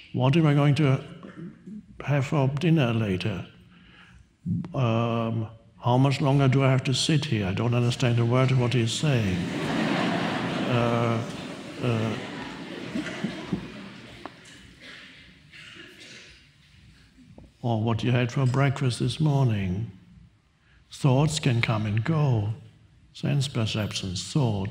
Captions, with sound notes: What am I going to have for dinner later? How much longer do I have to sit here? I don't understand a word of what he's saying. (audience laughs) Or what you had for breakfast this morning. Thoughts can come and go. Sense perceptions, thoughts.